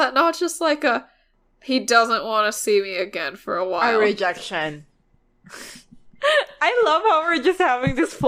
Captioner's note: laughs